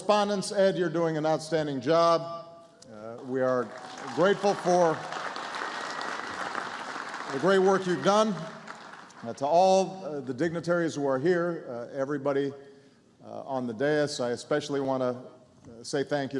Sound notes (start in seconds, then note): 3.1 applause